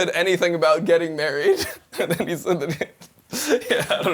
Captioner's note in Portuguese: risos; risos